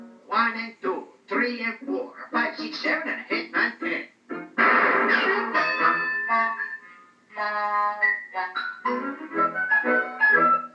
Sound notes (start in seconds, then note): 4.5 bang; 5.6 ding